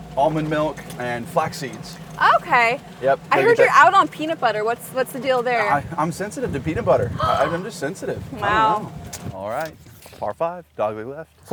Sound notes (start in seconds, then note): 7.1 Paige gasps